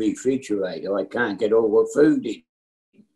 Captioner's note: laughs